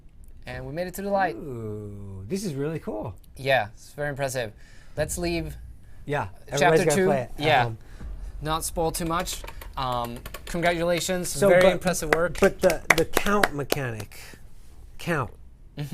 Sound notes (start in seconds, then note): 12.0 applause